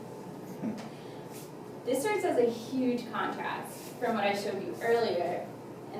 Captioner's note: laughs